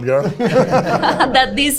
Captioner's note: everybody laughs